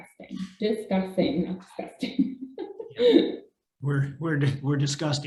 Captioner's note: laughing